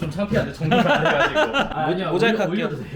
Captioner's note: haha